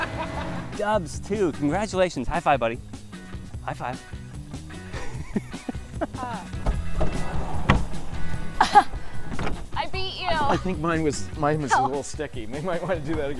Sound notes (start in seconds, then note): 11.7 laughter